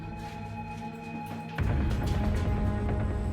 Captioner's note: footsteps running; rapid suspenseful music